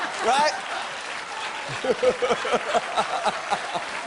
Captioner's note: laughter